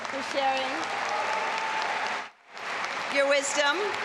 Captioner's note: audience applauding and cheering